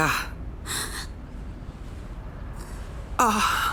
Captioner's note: gasps, sighs